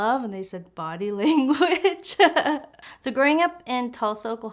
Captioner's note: chuckles